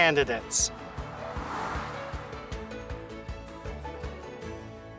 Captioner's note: air whooshes